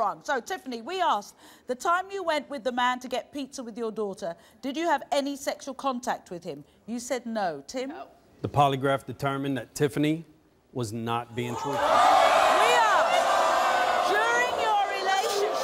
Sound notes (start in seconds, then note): 11.8 audience gasps